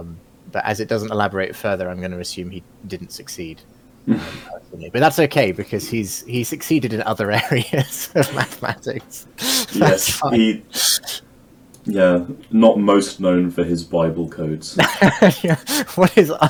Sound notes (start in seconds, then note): 9.6 laughing; 14.8 laughing